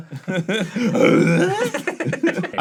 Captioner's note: arin does a tim allen grunt